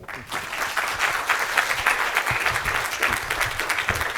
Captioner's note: audience applauding